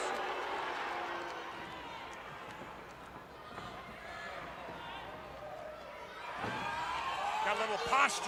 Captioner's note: crowd chatter